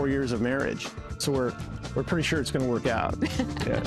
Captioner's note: both laugh